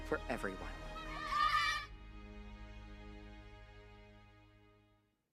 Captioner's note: children cheer